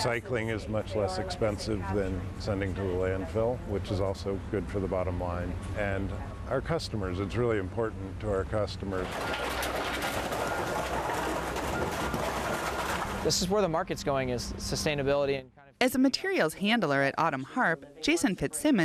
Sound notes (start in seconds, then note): 9.0 objects crashing; 9.0 vehicle beeping